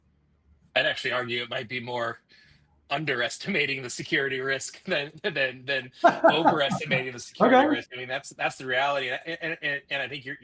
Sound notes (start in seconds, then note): 6.0 chuckles; 6.0 laughing